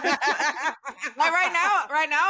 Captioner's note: laughs